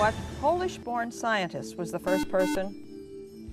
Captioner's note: buzzer